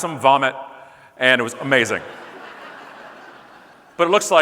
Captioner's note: audience laughing